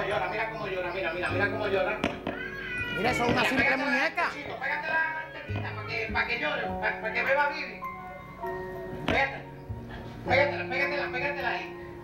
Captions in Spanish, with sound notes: MIRA, VEN, VEN. VAMOS A PONERTE ESTO. VEN. MIRA CÓMO LLORA... MIRA...MIRA CÓMO LLORA. [Golpes ligeros] [Llanto de la muñeca] ESA ES UNA SIMPLE MUÑECA. PÉGATELA PARA DARLE T--- PA' QUE LLORE, PA' QUE BEBA BIBI. PÉGATELA... PÉGATELA AHÍ.